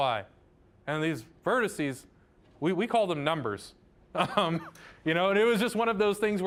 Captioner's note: laughing